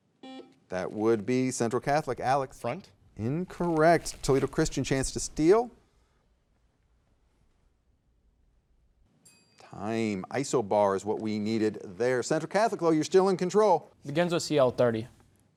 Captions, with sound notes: (soft beeping) That would be Central Catholic, Alex. - Front? - Incorrect. Toledo Christian, chance to steal. (soft chiming) Time. Isobar is what we needed there. Central Catholic, well you're still in control. - Begins with "CL" 30,